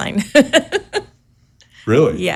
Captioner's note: chuckles; laughs